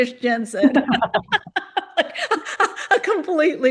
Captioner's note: laughter